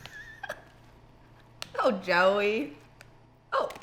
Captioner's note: laughing